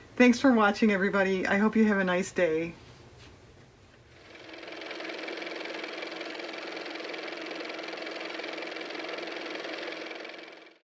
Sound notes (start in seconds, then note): 6.7 car motor